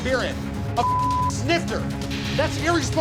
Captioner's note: beep